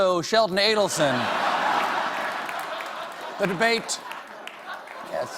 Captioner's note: laughter